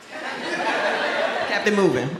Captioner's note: audience laughs